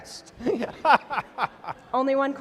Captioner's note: laughter